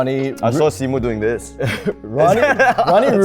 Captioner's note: laughs